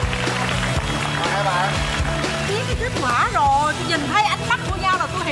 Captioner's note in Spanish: Aplaudir